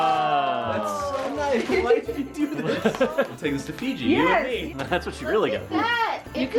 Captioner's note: laughs